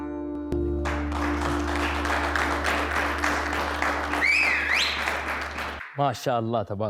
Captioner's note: clapping